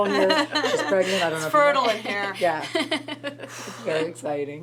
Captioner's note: laughs